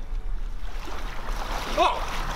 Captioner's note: water sloshes